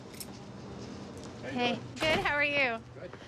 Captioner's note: door opens